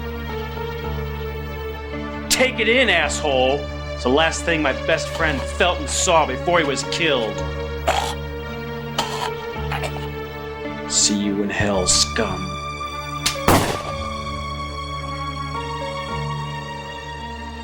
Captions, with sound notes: Take it in, asshole! It’s the last thing my best friend felt and saw before he was killed. [Gagging] See you in hell, scum.